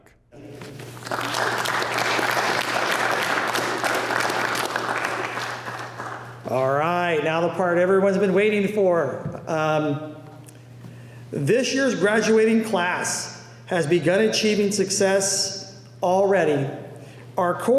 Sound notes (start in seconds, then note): 0.7 applause